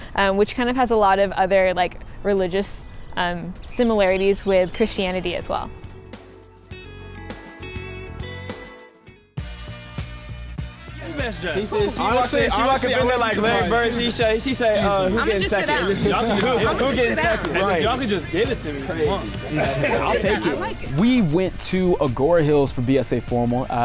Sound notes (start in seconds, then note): 6.0 gentle music; 10.6 group conversing